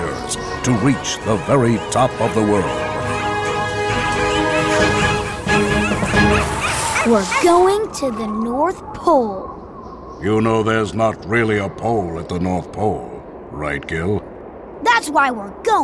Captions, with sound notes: to reach the very top of the world. [barking] We're going to the north pole! You know there's not really a pole at the North Pole right, Gil? That's why we're going,